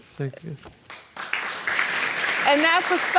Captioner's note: audience applauds